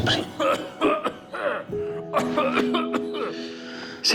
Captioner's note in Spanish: Continúa la tos